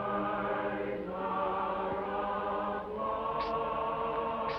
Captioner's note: foreign accent